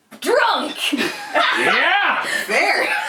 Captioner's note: laughter